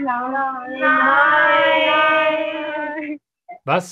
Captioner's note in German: viele Kinderstimmen